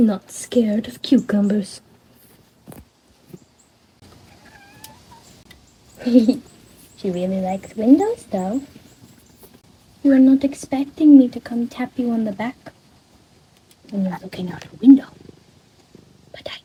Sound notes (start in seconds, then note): 4.2 meow; 5.9 laughing